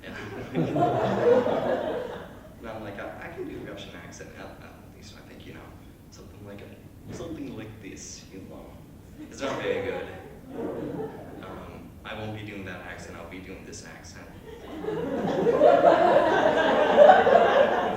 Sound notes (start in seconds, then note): 0.0 laughter; 6.0 in poor Russian Accent; 9.2 chuckle; 14.4 laughter